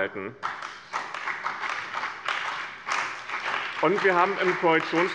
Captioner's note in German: Beifall bei dem BÜNDNIS 90/DIE GRÜNEN und der CDU